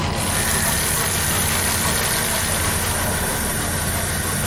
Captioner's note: sounds of fast 3d metal printing